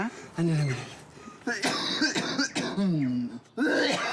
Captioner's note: coughs chestily